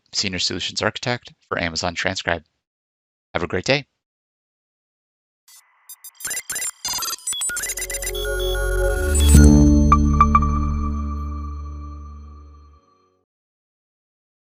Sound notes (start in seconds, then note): 5.6 graphics humming; 5.9 graphics beeping; 9.3 logo chiming; 9.3 logo humming